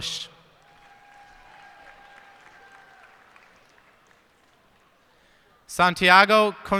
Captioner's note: cheers and applause